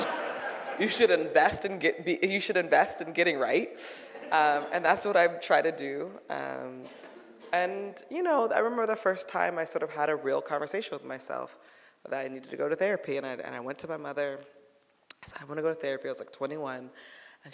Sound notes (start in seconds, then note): 0.0 audience laughing; 4.0 audience laughing